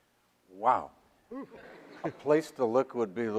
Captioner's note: audience laughs